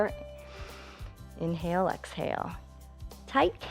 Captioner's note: inhales